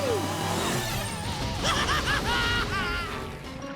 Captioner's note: laughing